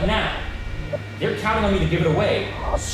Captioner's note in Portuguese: Distorção de áudio